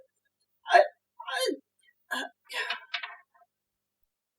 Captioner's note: sighs; stammering